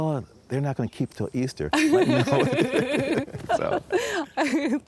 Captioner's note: both laugh